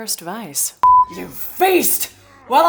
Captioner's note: beep